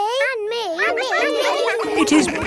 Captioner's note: all laughing